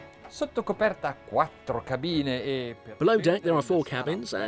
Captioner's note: speaking in foreign language